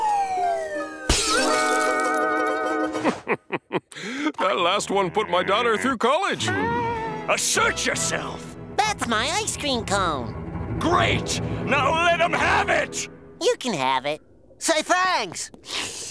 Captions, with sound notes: [shattering] [laughing] That last one put my daughter through college. Assert yourself. That's my ice cream cone. Great. Now let 'em have it. You can have it. Say, thanks.